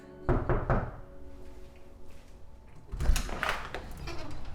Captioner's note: knocking at door